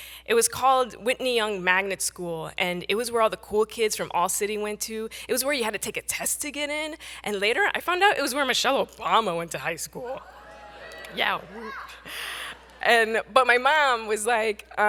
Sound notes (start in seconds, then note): 10.2 audience cheering